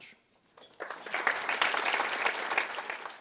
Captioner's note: applause